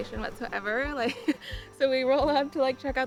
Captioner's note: chuckling